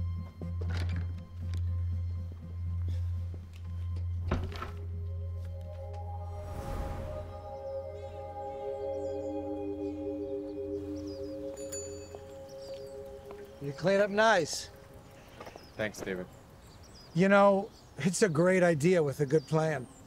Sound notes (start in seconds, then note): 4.3 door closes; 11.5 bike bell ringing